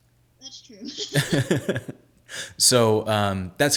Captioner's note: laughing